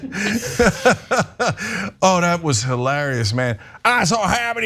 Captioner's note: laugh